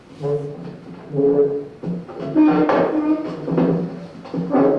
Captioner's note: wood scraping on floor